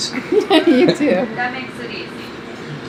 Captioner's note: laughs